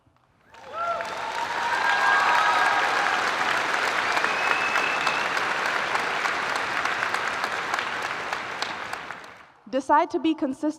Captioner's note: applause